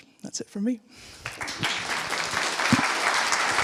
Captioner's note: audience clapping